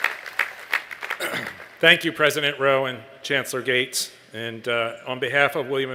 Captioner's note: applause